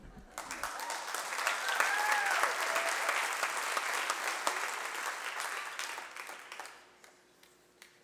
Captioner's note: applause